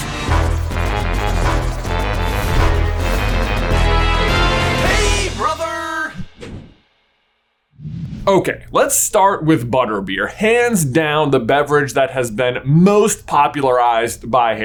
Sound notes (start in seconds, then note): 0.0 upbeat music; 7.7 transition wooshes